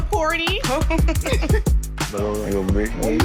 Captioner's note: laughing